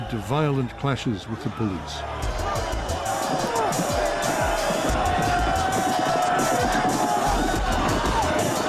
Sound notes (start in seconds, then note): 3.1 crowd shouting